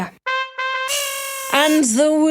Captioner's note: horn honking